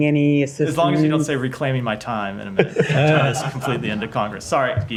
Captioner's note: laughter